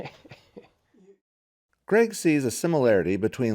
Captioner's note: voiceover